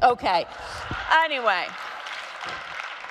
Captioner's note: audience applauding